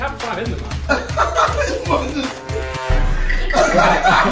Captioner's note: KSI laughing